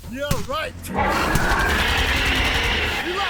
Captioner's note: loud screeches and roars; gunfire